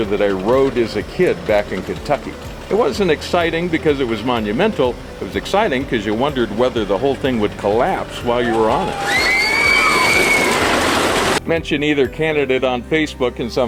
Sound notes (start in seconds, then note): 8.3 riders scream